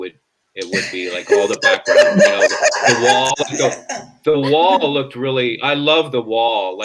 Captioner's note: laughs